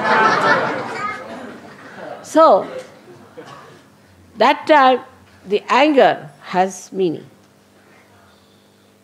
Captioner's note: laughter